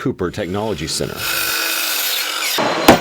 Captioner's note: sawing noise